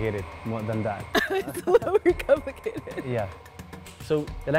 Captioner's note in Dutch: lacht